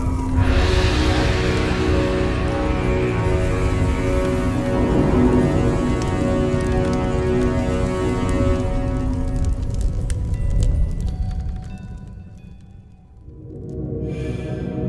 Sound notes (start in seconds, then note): 4.4 fire crackling and light background music continues